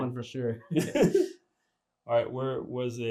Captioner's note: laughter